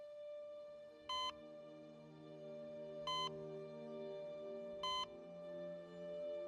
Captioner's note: heart rate monitor beeping